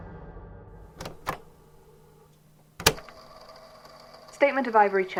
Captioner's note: click